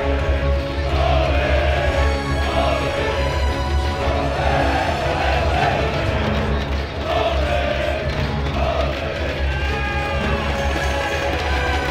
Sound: crowd chanting

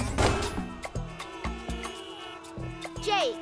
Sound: honking

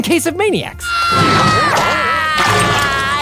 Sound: screaming

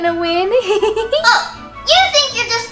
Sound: giggles

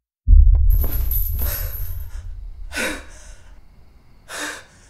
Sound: panting

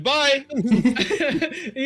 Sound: short giggle; laughs; giggles; short giggle

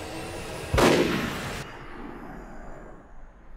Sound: gun fires

